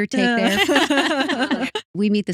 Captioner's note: laughing